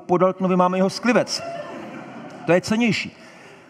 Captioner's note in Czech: Smích